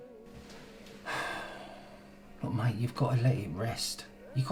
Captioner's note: sighs